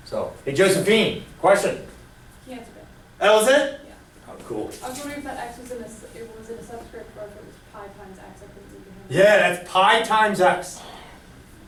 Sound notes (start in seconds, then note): 2.7 voiceover